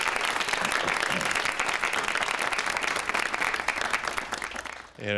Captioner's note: audience applauds